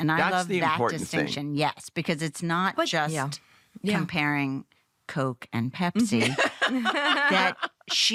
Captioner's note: laughter